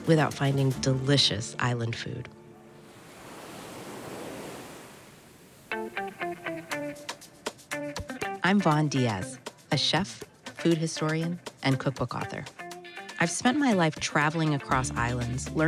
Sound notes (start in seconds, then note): 2.4 ocean waves lapping; 5.8 energetic upbeat music